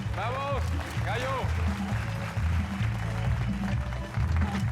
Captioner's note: Aplausos